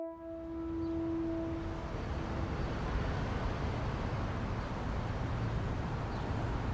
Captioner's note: traffic noise